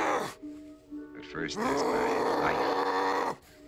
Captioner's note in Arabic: صراخ غاضب